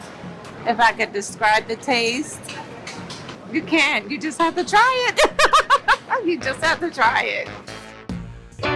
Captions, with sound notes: - If I could describe the taste, you can't, you just have to try it. (laughs) You just have to try it.